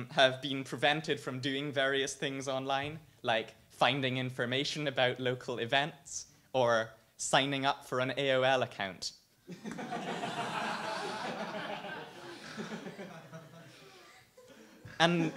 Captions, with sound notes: have been prevented from doing various things online like finding information about local events or signing up for an AOL account. (audience laughs)